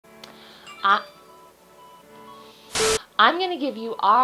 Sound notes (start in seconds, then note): 0.7 phone notification chime; 2.7 static